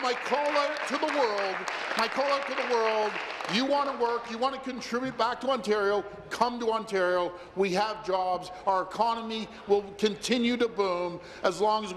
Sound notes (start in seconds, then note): 3.6 applause